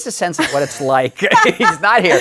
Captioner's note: laughs